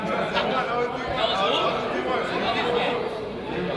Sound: crowd chatters

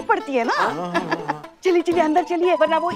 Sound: giggling

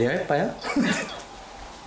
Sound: laughing

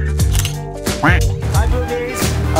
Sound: camera shutter clicking; duck quacking

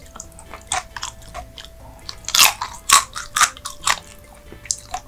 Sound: is eating hard

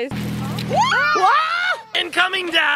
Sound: screaming

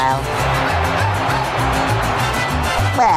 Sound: cheering

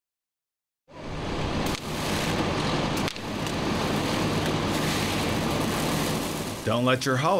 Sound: spark noises

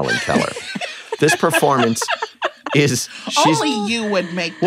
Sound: laughter

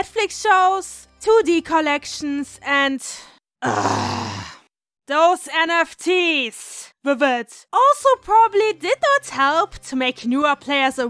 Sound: groan

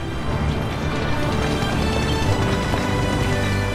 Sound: city noises; uplifting music

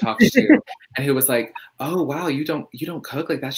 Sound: laughs

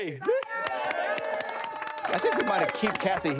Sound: flip crew clapping

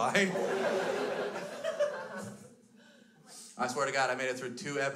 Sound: crowd laughs

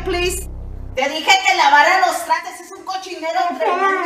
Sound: speaking Spanish

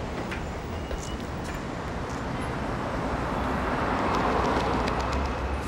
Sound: traffic rumbling past

